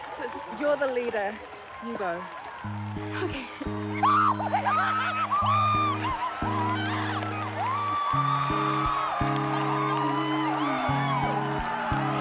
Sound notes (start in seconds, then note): 3.6 delighted shrieking, cheering; 6.4 gentle, pensive music